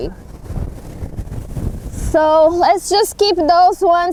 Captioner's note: wind blowing